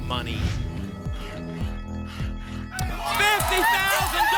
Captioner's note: alarms; scratching sounds